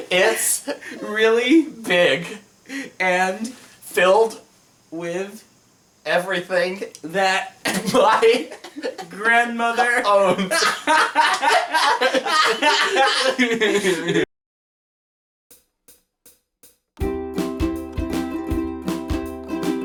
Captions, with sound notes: It's It's really It's really big It's really big and It's really big and filled It's really big and filled with It's really big and filled with everything It's really big and filled with everything that It's really big and filled with everything that my It's really big and filled with everything that my grandmother It's really big and filled with everything that my grandmother owned. *dying of laughter* *ukulele music plays*